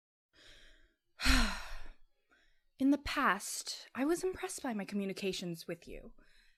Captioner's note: sighs